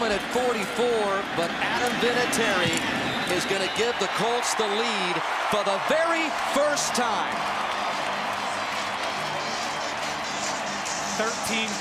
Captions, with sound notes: Tied at the moment at 44. But Adam Vinatieri is going to give the Colts the lead for the very first time. [cheering] [upbeat music]